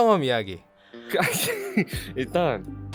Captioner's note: laughing